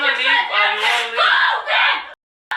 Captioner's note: shouting